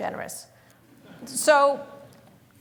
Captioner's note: laughter